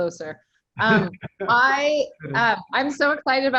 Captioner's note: laughing